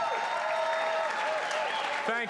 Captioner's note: cheers and applause